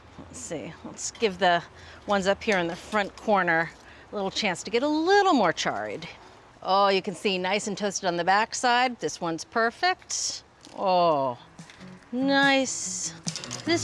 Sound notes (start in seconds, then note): none